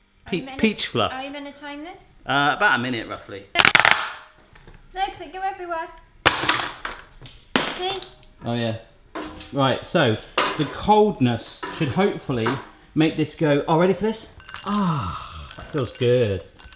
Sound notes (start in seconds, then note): 3.6 whacks; 6.0 thuds